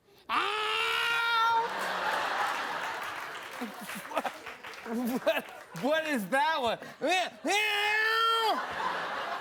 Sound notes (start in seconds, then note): 1.6 laughter; 3.5 applause